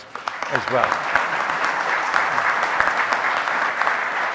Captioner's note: audience applauding